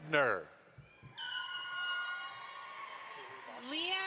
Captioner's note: audience applauds